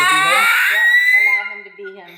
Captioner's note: vocalizing